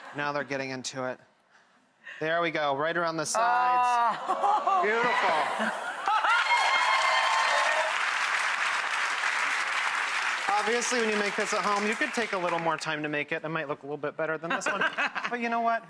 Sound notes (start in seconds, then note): 4.9 audience cheering and clapping